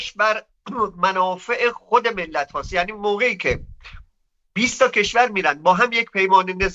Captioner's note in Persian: گلویش را صاف می‌کند